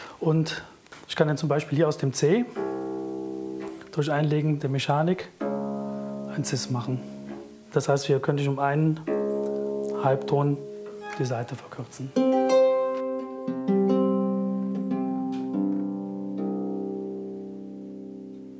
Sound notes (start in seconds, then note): 2.5 Tiefer Ton; 10.8 Tiefer Ton; 12.1 Verträumte Klänge